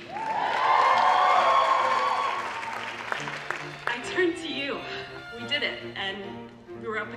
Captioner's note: cheering